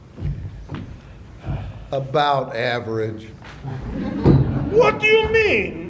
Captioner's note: laughter